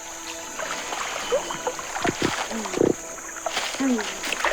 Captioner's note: splashing